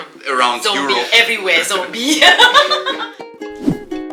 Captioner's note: laugh; background music